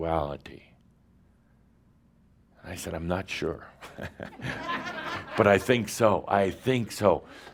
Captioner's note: some laughter